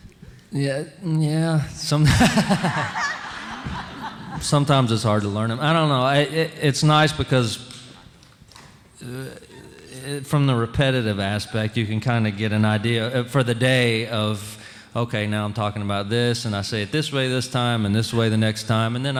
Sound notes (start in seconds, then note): 2.0 audience laughing